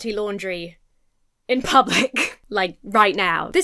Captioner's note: chuckles